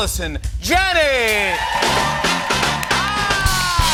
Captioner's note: cheers and applause